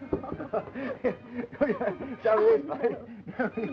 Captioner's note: laughing